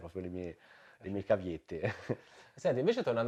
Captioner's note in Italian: risata